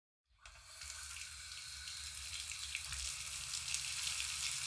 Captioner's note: water running